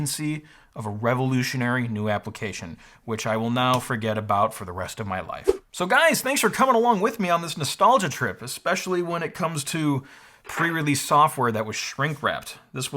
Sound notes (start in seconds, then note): 5.4 swoosh